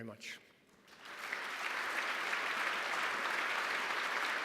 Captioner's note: applause